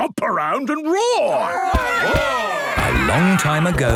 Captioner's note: all roaring